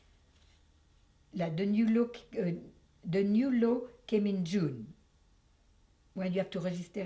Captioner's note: french